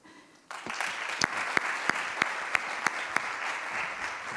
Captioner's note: audience applauds